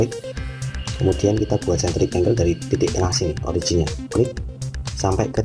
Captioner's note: click